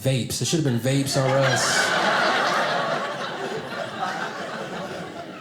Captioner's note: audience laughing